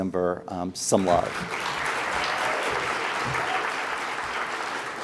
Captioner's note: audience applauds